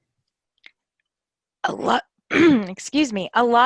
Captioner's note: clears throat